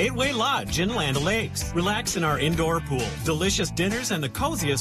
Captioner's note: none